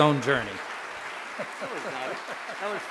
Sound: audience applauding

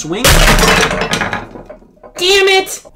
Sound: glass shatters

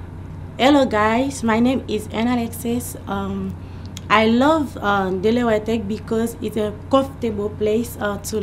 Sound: in English

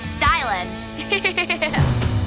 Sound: giggling

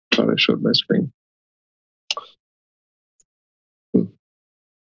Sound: faintly speaking

